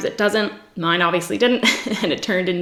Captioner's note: giggles